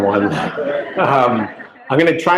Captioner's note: laughter